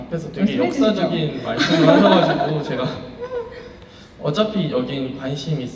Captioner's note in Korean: 웃음